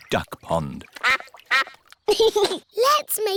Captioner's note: quacking; giggles